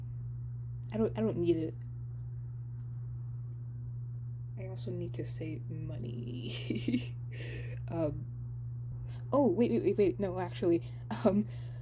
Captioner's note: laughs